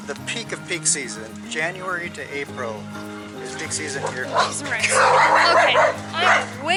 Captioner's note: dogs barking